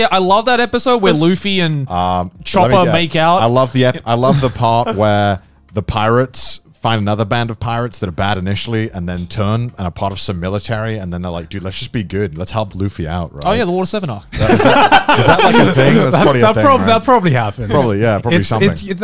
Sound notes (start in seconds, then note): 14.3 laughing